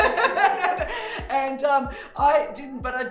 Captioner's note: hysterical laughing